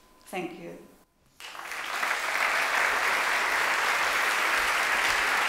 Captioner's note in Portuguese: Aplausos